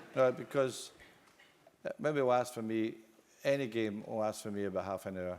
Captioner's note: laugh